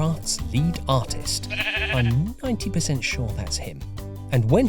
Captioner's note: sheep bleats